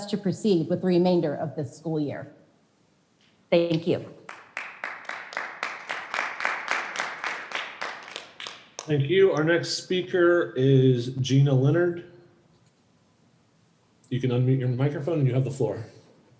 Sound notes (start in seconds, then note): 4.2 audience clapping